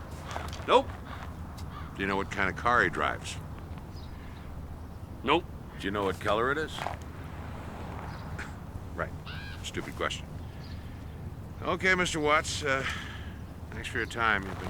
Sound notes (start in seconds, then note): 9.0 chuckles